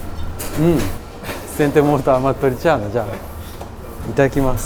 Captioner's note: Italian